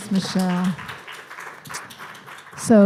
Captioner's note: clapping